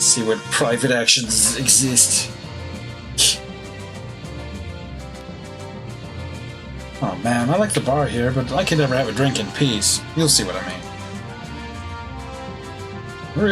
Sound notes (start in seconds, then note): 3.2 laughs softly